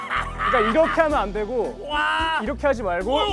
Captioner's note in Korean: 기다렸다는 듯이 비웃음